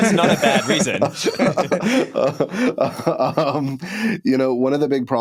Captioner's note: laughter